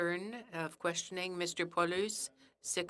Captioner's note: speaking in French